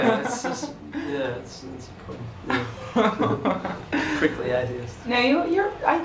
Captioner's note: laughing